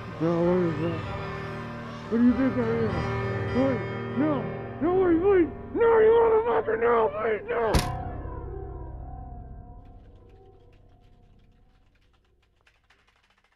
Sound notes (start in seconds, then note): 7.7 trunk slams shut; 9.9 keyboard clacking